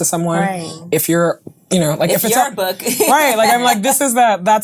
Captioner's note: stuttering